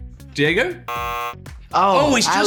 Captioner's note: buzzer